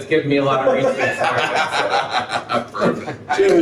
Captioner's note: laughing